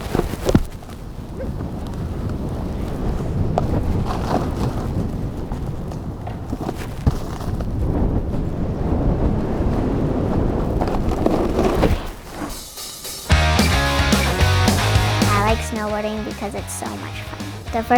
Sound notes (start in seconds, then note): 1.0 wind howls; 13.2 upbeat music